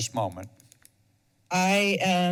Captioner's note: mouse clicking repeatedly